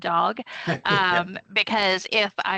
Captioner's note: laughing